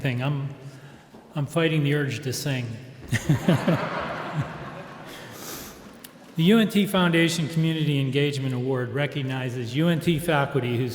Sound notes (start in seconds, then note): 3.1 audience laughs